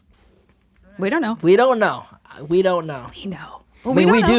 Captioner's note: whispering